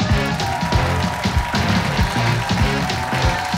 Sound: cheers and applause

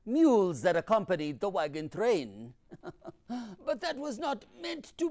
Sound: laughs

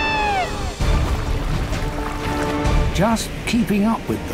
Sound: whooping call

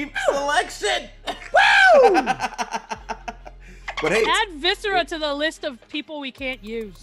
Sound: laugh

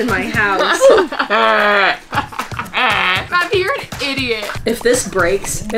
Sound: laughs

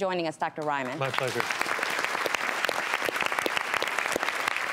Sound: applauding

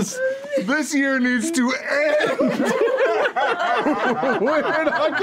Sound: group laugh

